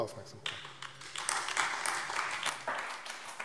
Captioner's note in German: Beifall AfD